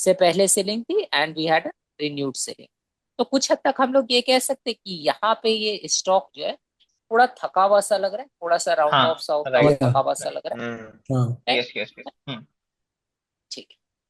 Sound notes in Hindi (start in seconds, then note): 10.6 गला साफ़ करने की आवाज़